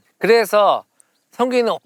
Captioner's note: none